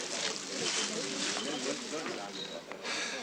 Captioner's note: indistinct chatter